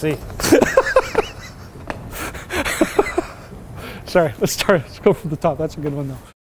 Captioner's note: laughter